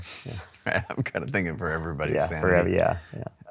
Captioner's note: laughs